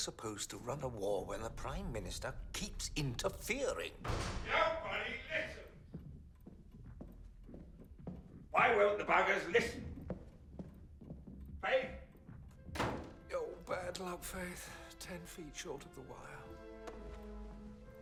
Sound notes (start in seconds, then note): 3.9 door crashes; 12.7 door slams